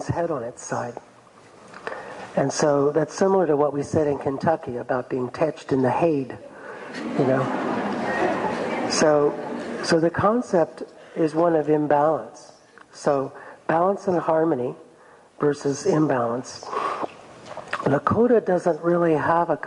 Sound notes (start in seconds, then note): 6.8 audience laughs